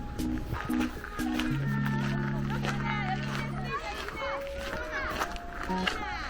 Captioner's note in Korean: 흙 밟는 발자국 소리